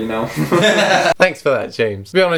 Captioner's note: laughs